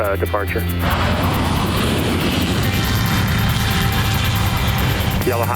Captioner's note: airplane whooshes